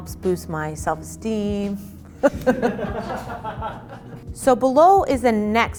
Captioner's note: laughing